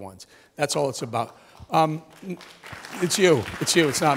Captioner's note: applause